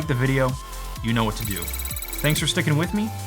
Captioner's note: computer chiming